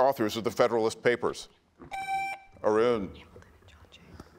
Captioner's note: buzzer beeps